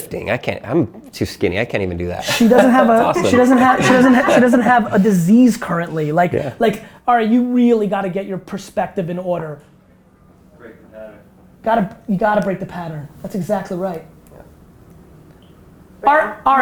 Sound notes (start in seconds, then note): 2.2 laughing